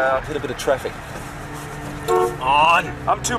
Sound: honking of car horns

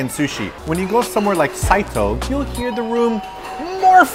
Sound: bell rings again

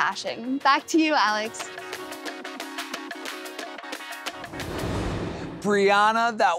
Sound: transition whooshes

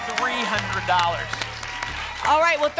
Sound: applause and cheering

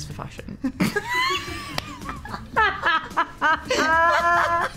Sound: Olivia and Emma laugh

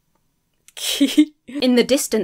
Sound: chuckles mischievously

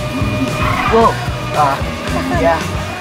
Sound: tires squealing

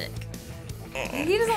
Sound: groans

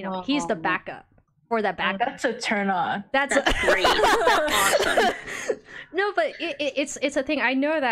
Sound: laughs at comment

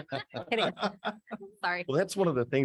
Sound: board laughing

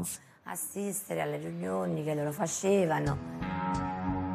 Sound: speaking in Italian; upbeat music

